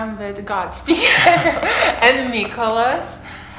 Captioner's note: laughter